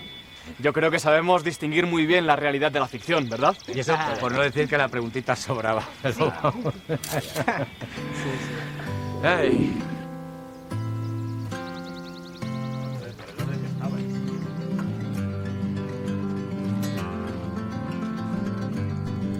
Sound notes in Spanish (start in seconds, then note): 5.8 Risas; 10.4 Música tranquila